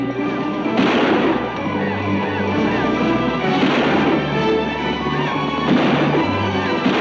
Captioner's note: exciting music; guns bang